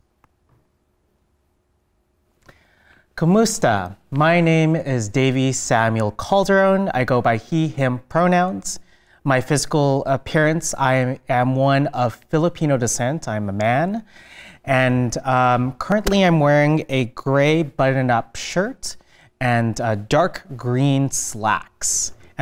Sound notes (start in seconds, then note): 3.3 foreign language